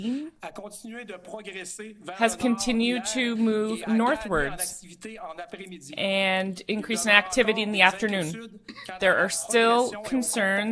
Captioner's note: speaking French